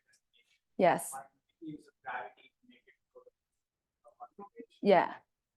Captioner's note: student speaking faintly